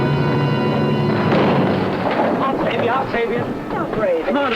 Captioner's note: crashing